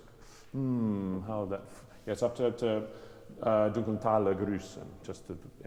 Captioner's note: speaks German